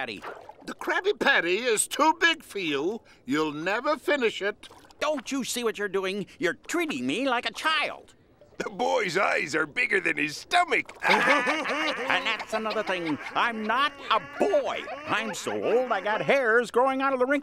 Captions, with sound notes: The Krabby Patty is too big for you. You'll never finish it. Don't you see what you're doing? You're treating me like a child! The boy's eyes are bigger than his stomach. [laughing] And that's another thing, I'm not a boy! I'm so old I got hairs growing out of the wrinkles